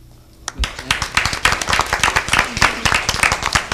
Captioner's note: applauding